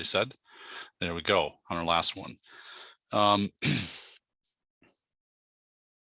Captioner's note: clears throat